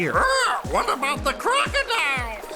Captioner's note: צווחות